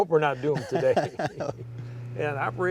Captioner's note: laughs